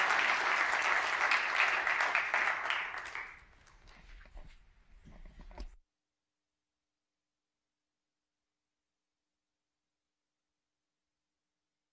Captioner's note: applause